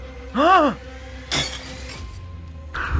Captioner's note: Bartender drops and smashes glass